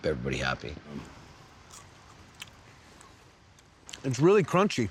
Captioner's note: crunching sound